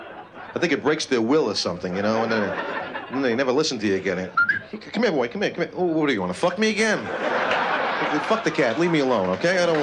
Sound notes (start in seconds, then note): 4.3 whistles; 7.0 laughter